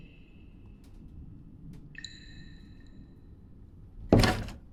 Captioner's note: water drips; door clicks